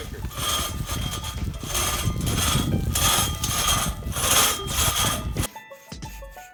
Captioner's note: sawing Noise